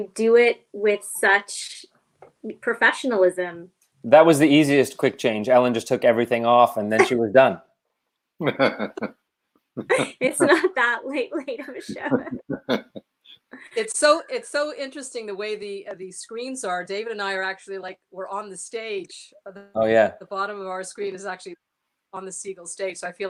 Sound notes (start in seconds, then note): 11.6 laughter